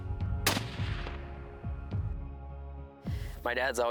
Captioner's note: gunshot